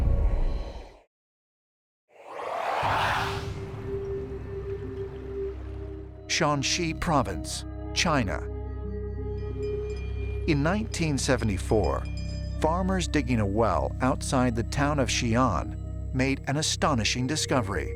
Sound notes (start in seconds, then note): 2.2 otherworldly warbling; 4.4 tense music playing